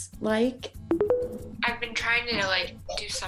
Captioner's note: tones